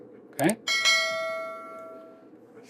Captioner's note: bell ringing